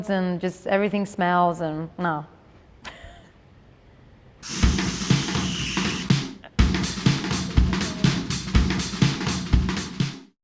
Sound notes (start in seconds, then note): 2.8 laughs; 4.4 energetic percussive music